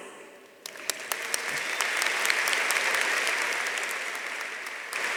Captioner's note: audience applauding